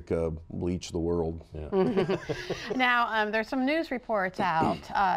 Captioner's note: laughter